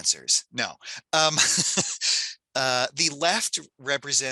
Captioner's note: laughs